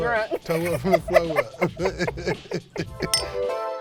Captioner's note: laughing